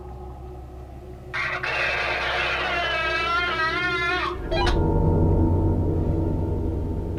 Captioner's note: baby cries on the walkie talkie